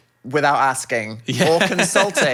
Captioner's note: laughs